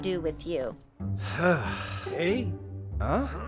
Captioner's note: heavy sigh